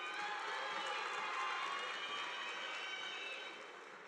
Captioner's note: audience applauding